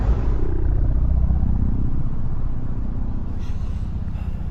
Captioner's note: air quavering